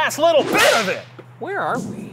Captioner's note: whip cracks